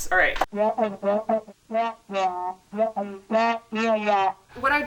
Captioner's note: speaker audio distorted